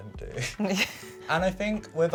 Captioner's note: chuckling